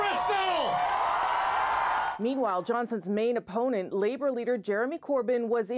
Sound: cheers and Applause

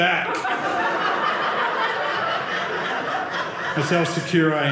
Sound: audience laughing

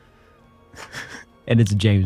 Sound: laughs

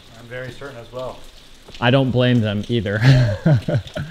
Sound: laughs

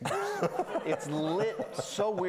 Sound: laughing; students laughing

